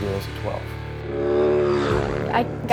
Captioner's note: engine whizzing